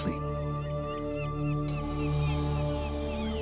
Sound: seagulls

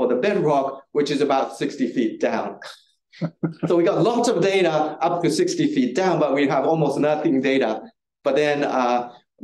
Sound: audience chuckling

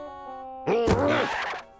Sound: grunts

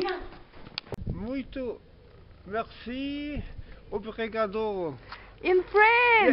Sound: some portuguese speech

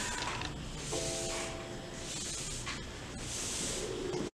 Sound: brush scraping

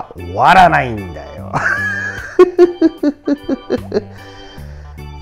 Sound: laughs

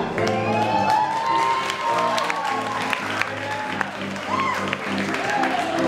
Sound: cheering and applauding

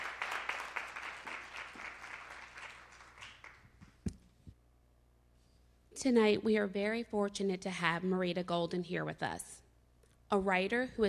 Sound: applause

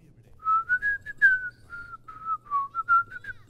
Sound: whistles

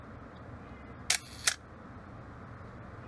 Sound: camera flash

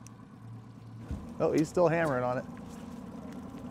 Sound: boat engine idling

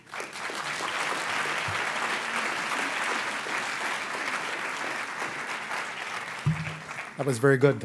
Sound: applause

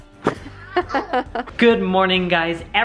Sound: laughs

